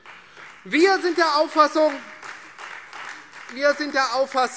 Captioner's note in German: Beifall Freie Demokraten